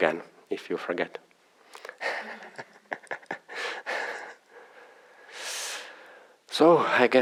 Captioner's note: laughter